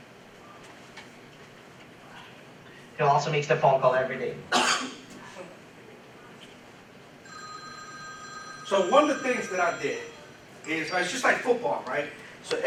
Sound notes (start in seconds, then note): 7.2 telephone ringing